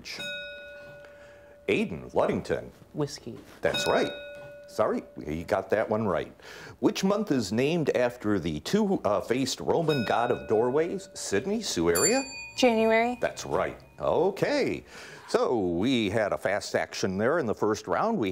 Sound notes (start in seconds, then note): 0.1 bell rings; 9.7 bell rings; 9.7 timer bell rings